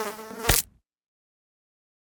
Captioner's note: fly buzzing; fly splatting